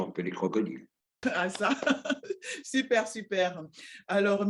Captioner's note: laughs